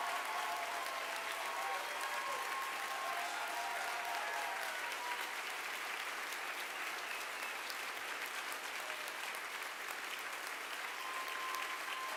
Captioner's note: applause